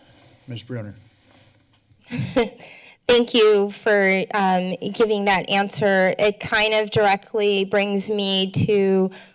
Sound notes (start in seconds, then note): 1.8 laughter